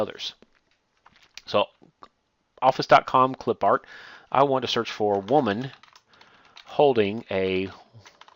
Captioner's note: typing